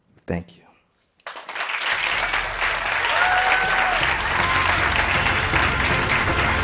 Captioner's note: applause